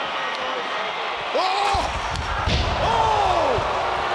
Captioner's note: mat shudders